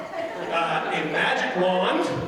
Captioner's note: audience laughing